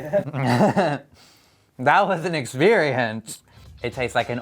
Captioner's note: chuckles